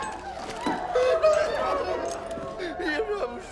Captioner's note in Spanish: sollozo; llora